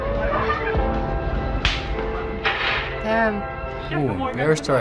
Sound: loud slap

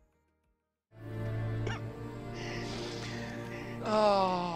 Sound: crying

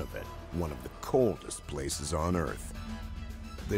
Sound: voiceover

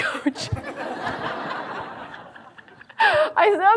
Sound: audience laughs

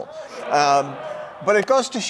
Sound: audience laughing

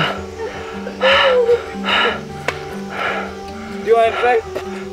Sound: deep Breathing

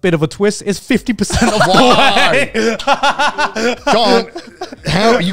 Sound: all laughing

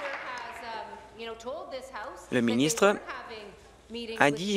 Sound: applause

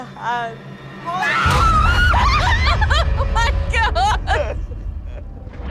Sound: screams

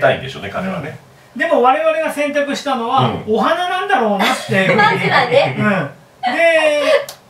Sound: laughs

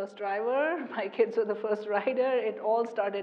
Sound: laugh

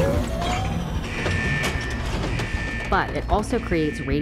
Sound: buzzer

